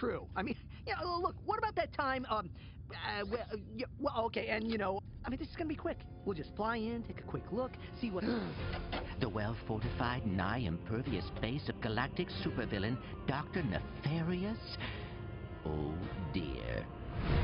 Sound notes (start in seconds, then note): 8.3 gasps